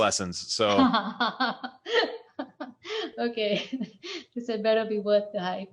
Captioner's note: laughs